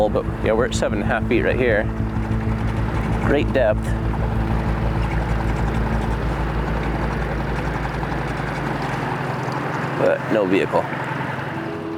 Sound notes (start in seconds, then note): 4.7 boat engine rumbling; 4.7 somber music continues; 10.2 gentle piano music begins; 11.7 boat engine humming